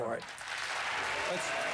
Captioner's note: applause